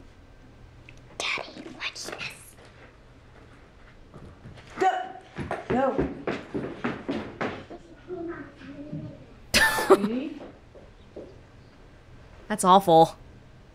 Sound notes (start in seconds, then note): 9.5 chuckles